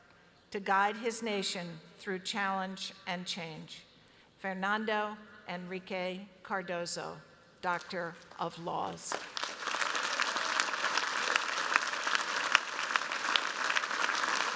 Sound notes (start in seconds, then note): 8.9 applause